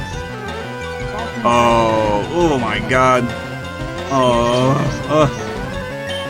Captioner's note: groans